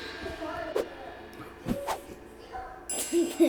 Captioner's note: fight sounds; triangle ting